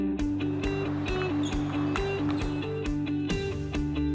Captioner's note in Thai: เสียงตีปิงปอง